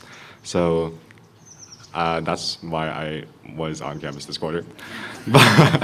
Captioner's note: laughter